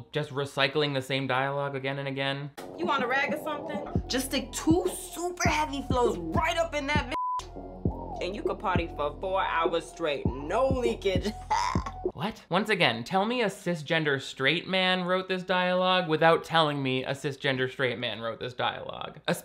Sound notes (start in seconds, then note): 7.1 beep; 11.2 chuckles